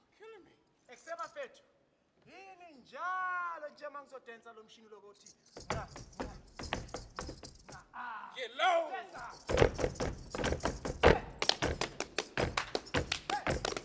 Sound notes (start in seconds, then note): 1.2 speaking language other than English; 5.5 feet stomping; 9.3 feet stomping and hands clapping